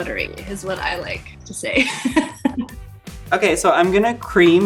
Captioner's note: laughs